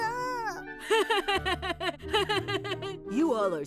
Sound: laughs

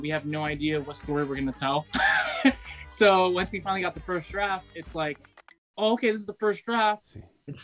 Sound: laughs

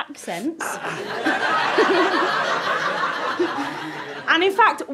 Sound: audience laughter

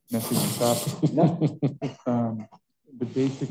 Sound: panelists laugh

